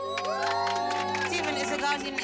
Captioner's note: cheers and applause